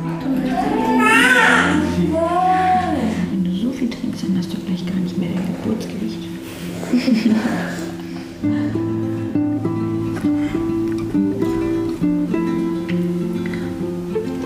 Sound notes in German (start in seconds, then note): 0.4 Babyschreien; 6.7 Lachen; 8.3 Sanfte Musik